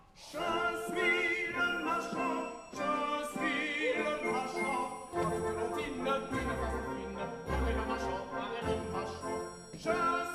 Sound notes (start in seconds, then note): none